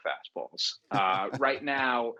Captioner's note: laughter